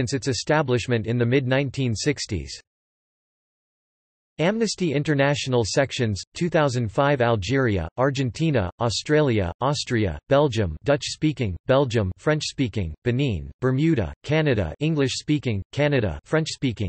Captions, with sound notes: its establishment in the mid-1960s. Amnesty International Sections, 2005Algeria; Argentina; Australia; Austria; Belgium (Dutch-speaking); Belgium (French-speaking); Benin; Bermuda; Canada (English-speaking); Canada (French-speaking);